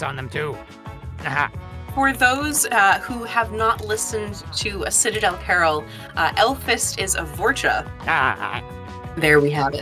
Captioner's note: laughs